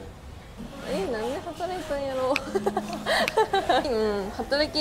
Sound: laugh

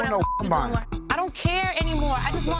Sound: beep

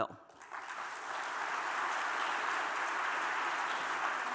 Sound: audience applauding

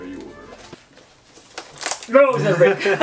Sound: basket squeaking

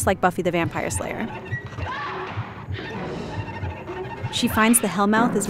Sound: eerie tones; screams

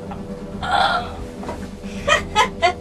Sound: gasp

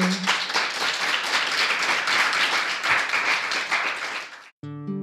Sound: group applauding

